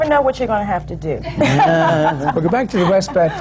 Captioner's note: laughs